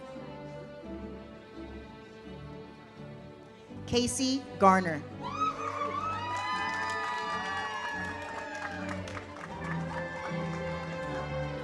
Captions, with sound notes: Casey Garner. (audience cheers) (uplifting music)